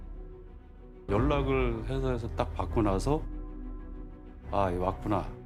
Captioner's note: speaking Korean